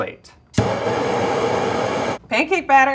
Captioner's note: flame roaring